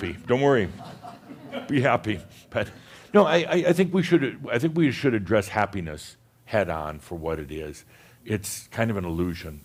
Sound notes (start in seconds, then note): 1.3 a few chuckles